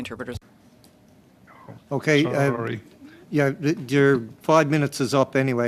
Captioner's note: speaking French